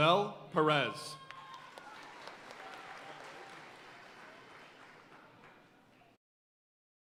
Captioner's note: audience cheering and applauding